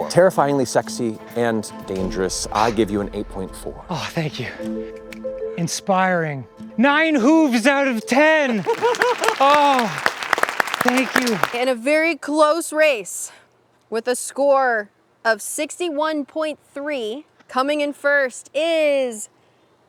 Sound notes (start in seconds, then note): 3.9 sighs with relief; 8.2 applause